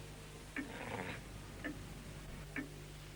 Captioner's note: low growl